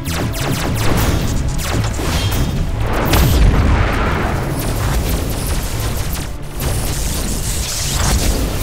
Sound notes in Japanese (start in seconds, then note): 4.9 ビュッという攻撃音